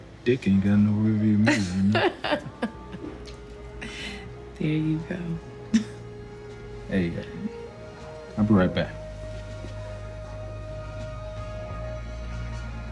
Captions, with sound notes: Dick ain't got no rear view mirror, you know? - (chuckling) There you go. - I'll be right back. (mellow music)